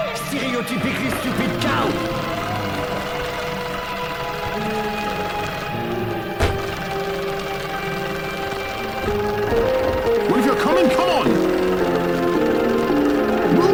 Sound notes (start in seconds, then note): 2.4 fire crackling; 9.1 lively instrumental music